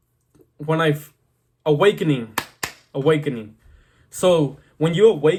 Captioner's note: clap